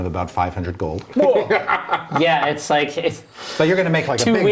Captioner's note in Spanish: risas